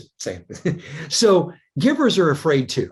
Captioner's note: chuckles